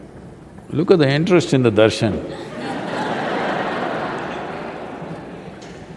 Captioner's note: laughter